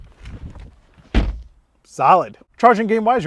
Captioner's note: door bangs